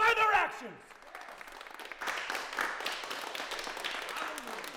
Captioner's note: crowd clapping